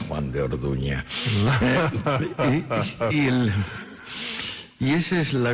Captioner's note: laughs